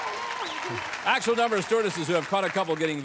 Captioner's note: applause